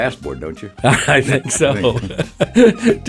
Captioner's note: laughs